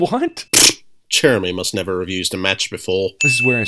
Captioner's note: sputters